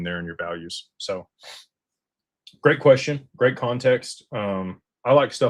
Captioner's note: snorts